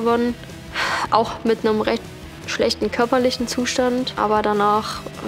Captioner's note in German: seufzt